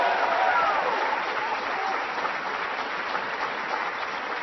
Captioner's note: applause